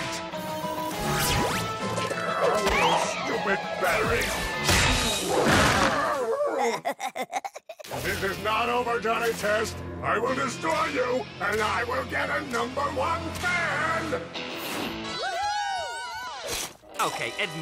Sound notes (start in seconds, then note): 6.3 giggles